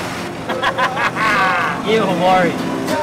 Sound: chortles

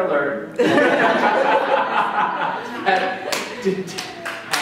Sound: laughter; some clapping

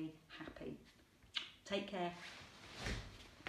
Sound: lips smacking

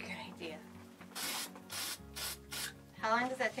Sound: paint sprays

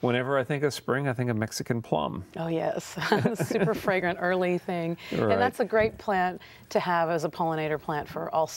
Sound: laughter

